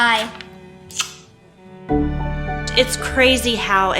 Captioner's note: lips smacking